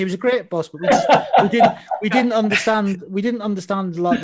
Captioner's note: laughs